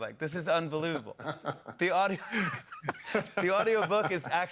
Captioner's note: laughter